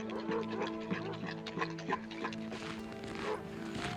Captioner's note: lapping; boots crunching snow